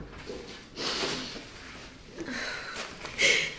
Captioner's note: sighs; sniffles